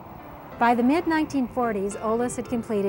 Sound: voiceover

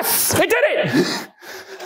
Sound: laughs excitedly

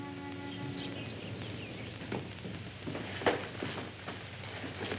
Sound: birds chirping

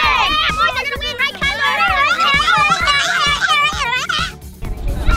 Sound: excited nonsense

